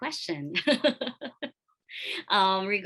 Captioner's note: laughs